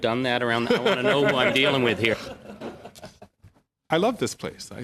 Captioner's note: laughter